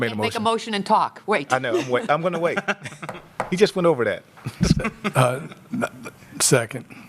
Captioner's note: laughter